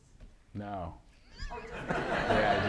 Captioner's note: laughter